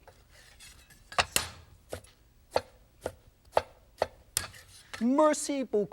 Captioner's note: knife chopping